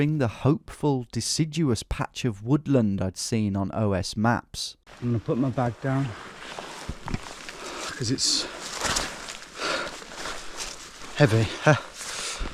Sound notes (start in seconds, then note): 7.3 exhales